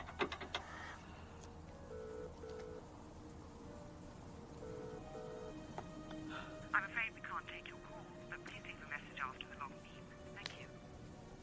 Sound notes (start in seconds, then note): 2.1 phone ringing; 11.2 phone beeps